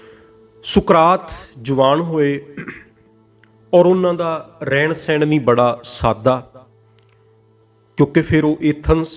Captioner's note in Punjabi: ਗਲਾ ਸਾਫ਼ ਕਰਨ ਦੀ ਅਵਾਜ਼